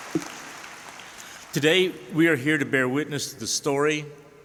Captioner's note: applause